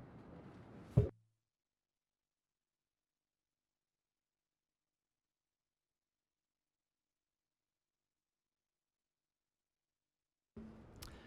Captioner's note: loss of audio